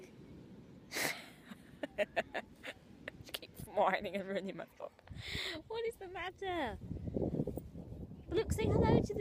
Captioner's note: laughs